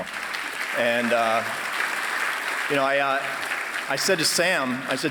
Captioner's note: applause